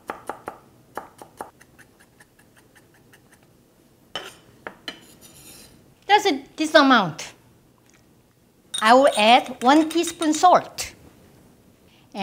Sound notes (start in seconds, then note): 0.8 chopping